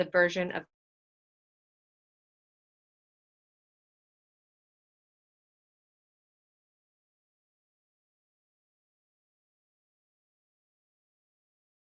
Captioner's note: few moments of silence due to screen freeze